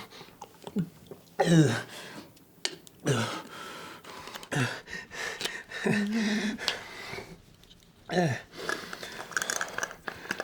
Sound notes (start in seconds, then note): 3.2 panting; 5.8 Jessica chuckles